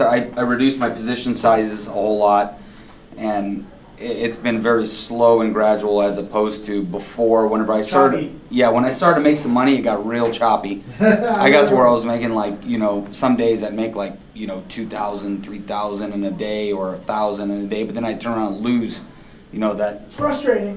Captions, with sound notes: I reduced my position sizes a whole lot, and it's been very slow and gradual, as opposed to before, whenever I started-- - Choppy. - Yeah, when I started to make some money, it got real choppy. (laughing) I got to where I was making, you know, some days, I'd make 2,000, 3,000 in a day, or 1,000 in a day, but then I'd turn around and lose, you know, that-- - It's frustrating.